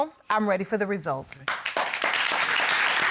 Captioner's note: applause